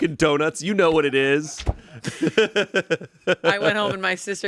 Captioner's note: laughs